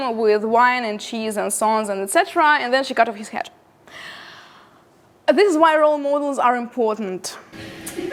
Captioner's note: evil womanly laughter